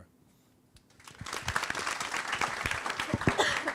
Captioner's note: applause